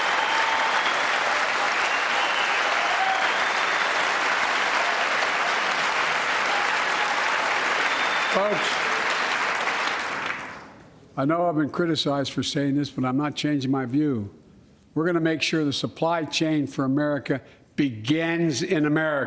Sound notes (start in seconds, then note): 4.5 cheers and applause